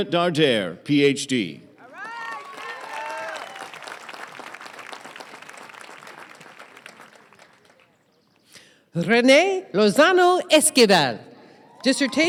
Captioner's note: applause